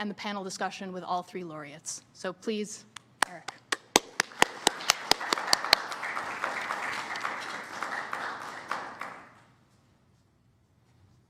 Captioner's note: applause